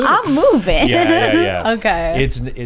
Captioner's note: laughs